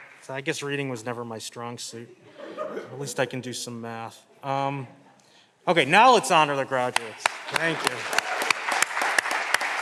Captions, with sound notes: So I guess reading was never my strong suit. (Audience laughing) At least I can do some math. Okay, now let's honor the graduates. (All clapping) Thank you.